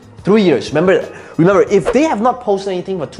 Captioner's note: air whooshing